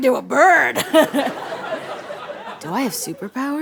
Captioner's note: laughs